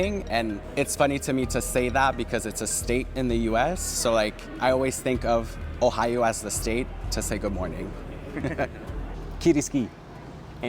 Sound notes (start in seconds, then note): 8.1 giggle